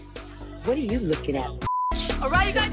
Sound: beeps

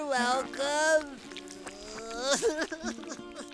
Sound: crying

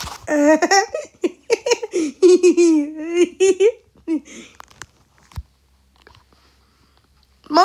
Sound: laughs

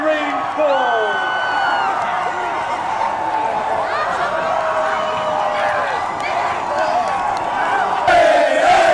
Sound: crowd cheering

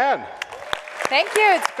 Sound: audience applauds

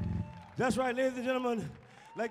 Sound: audience cheers

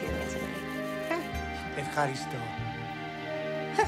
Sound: speaking in Greek

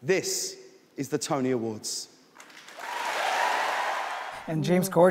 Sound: applause

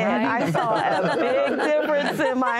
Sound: laughter

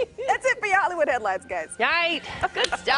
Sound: laughter

